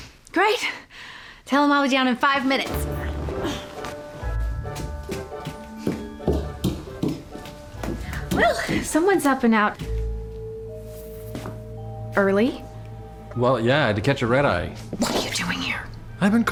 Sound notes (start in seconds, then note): 4.8 fast footsteps